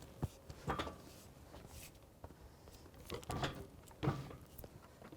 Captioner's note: wood clunking